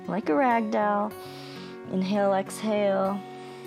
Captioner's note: inhales